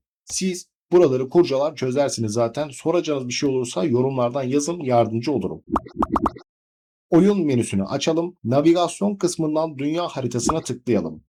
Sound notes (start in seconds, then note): 5.8 notification Sound